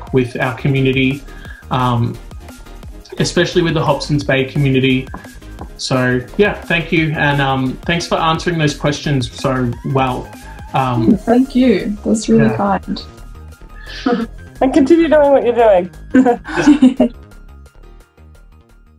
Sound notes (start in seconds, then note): 16.0 laughs